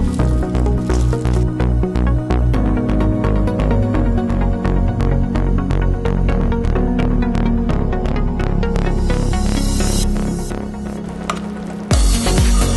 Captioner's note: stir-fry black mushrooms, sizzling sound in the background